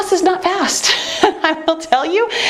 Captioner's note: laughing